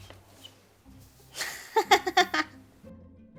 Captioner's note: laughing; gentle music